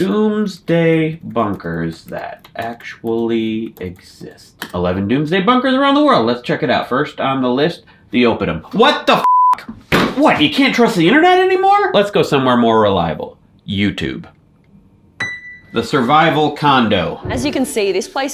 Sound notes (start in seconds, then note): 9.9 punches desk; 15.2 single piano key plays